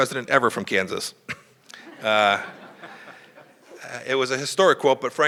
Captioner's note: laughter